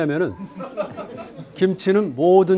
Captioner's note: speaking in Korean; students laughing; speaking in Korean